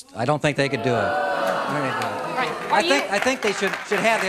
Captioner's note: audience boos and claps